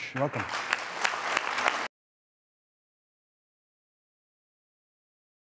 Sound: audience applauds

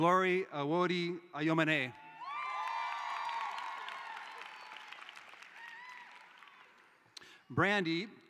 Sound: cheering

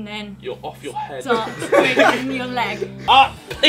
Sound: group laughing

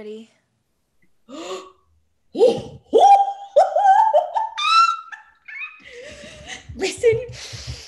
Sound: GABBY gasps then laughs

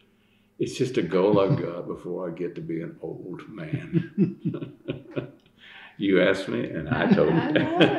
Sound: laughter

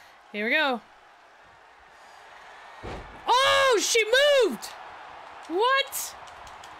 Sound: applause

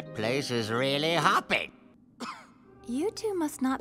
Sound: coughing

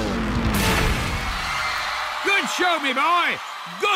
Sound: crowd cheering wildly

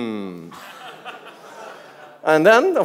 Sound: audience laughs

